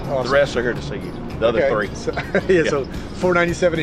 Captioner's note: chuckling